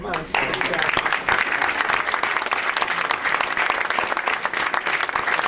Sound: audience applauds

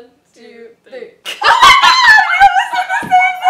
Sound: shrieks

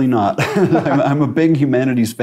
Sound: laughs

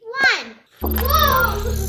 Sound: powering up

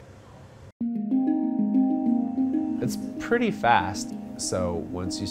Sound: bells chime

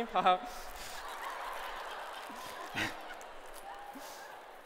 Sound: laughter

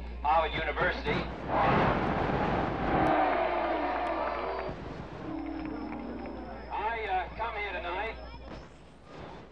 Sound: static

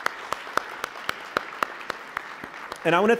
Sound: applause

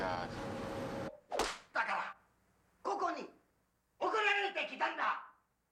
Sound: speaking japanese

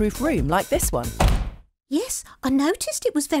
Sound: door slamming shut

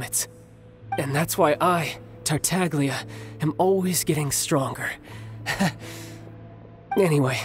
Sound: chuckles

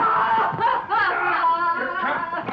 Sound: Petronella crying

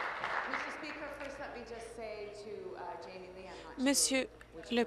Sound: applause

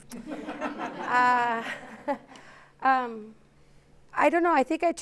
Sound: laughter

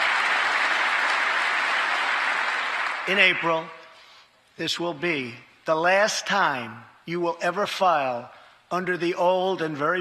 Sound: cheers and applause

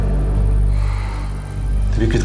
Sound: sighs

